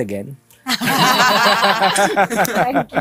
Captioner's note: laughter